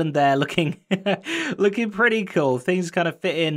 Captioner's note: chuckles